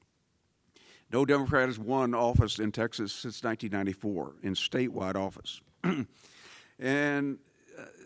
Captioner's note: cough